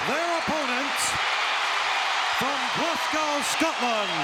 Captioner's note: audience cheering